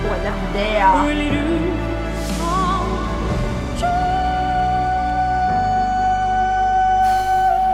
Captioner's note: exhales